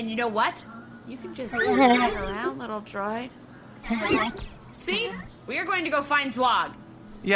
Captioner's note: makes uneasy noises